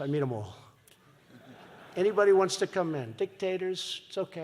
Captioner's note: laughter